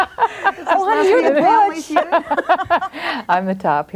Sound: group laughs; overlapping chattering

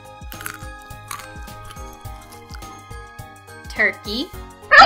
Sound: squirrel crunching

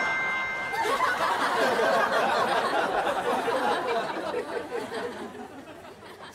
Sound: laughing

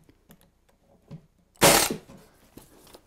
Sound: staple gun

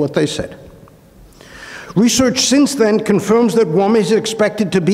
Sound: inhales

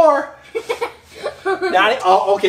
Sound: assistant giggles

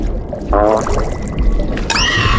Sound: flatulence / Bubbles

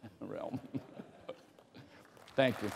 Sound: laughter

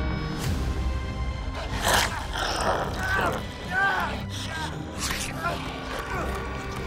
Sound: dramatic music; Solomon yelling; Gabriel growling

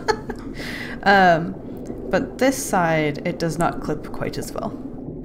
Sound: laughs

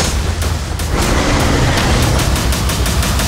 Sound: roaring

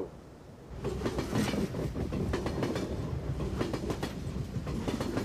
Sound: train riding down the track

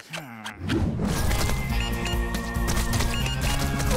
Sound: beeping

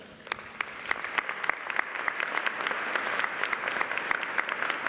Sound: audience applauding

